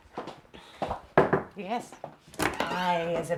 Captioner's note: door knocking